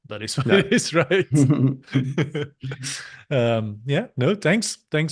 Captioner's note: chuckling